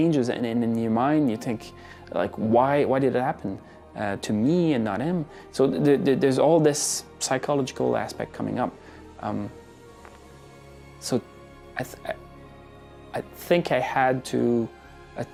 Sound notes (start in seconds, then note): none